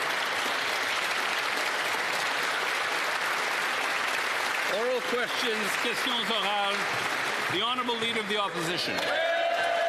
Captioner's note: applause